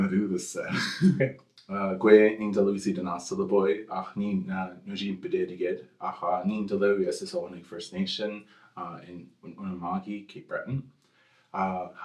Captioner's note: English